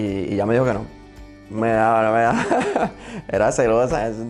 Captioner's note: laughs